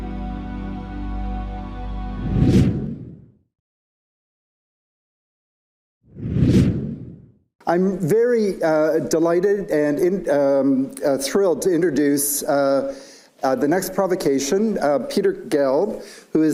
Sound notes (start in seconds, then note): 2.2 transition whooshing